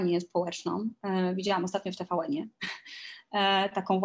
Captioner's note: śmiech